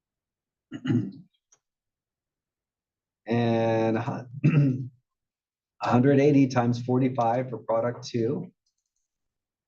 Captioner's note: cough